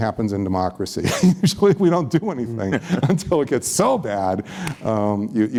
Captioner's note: laughs